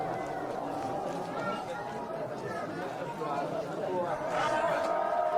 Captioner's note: people chattering